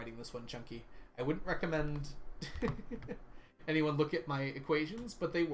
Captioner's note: laughs